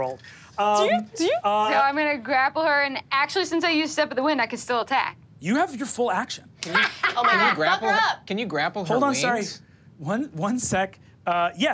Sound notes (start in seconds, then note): 6.8 laughs